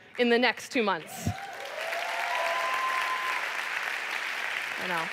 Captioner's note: applause